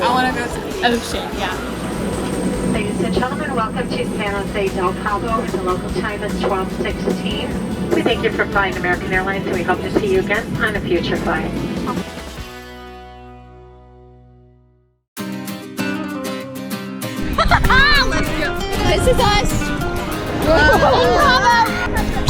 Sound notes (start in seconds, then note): 17.2 laughing